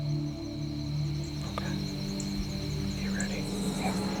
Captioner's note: whispering